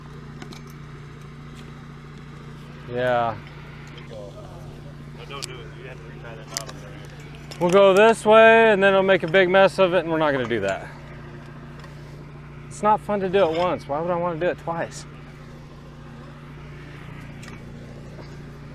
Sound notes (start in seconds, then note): 0.2 generator roars; 4.6 indistinct background chatter; 15.5 generator roars